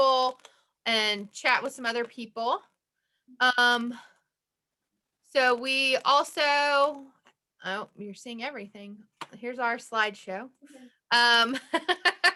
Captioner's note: laugh